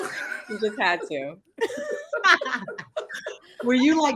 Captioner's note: group laughing